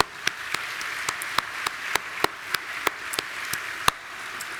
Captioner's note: audience applauding